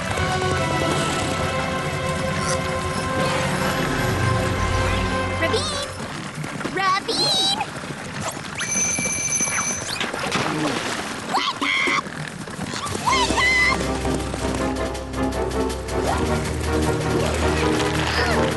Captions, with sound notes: RAVINE! RAVINE! [ring] [splash] WAKE UP! WAKE UP!